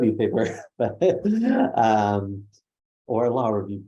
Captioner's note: laughs